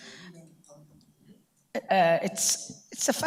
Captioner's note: speaks away from mic